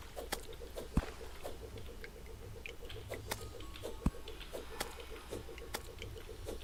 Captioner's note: boomerang beeing thrown angrily